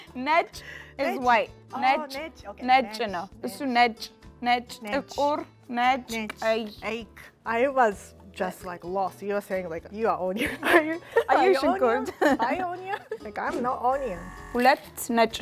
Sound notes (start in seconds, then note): 0.3 Amharic; 1.8 speaking Amharic; 15.2 speaking Amharic